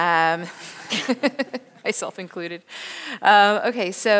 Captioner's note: laughs